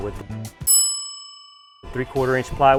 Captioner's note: bell ringing